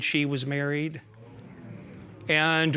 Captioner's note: audience murmuring